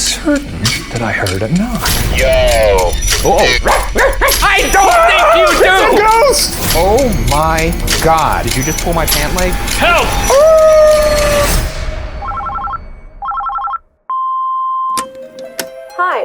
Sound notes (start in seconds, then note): 3.2 barking; 4.5 shrieking; 9.8 howling; 13.2 phone ringing; 14.4 machine beeps; 15.0 slow mysterious music